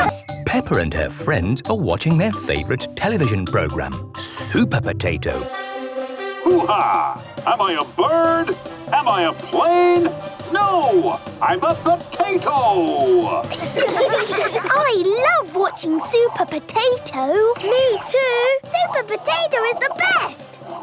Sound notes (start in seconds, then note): 5.5 trumpet sounding; 13.5 children laughing